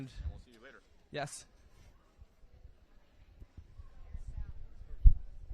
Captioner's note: background chatter